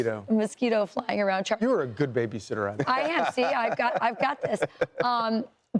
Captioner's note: laughter